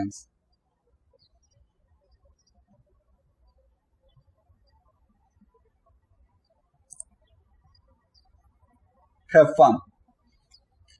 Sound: birds chirping

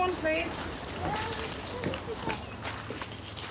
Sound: child speaks in distance

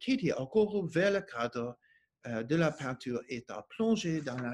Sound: speaking French

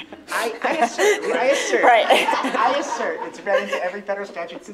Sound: laughter

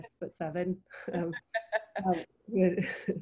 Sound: laughing

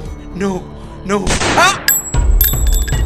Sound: gun shot and cry

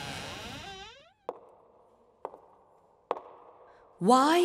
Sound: echoing footsteps

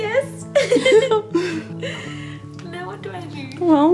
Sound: laughs

